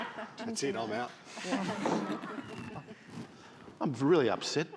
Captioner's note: all laughing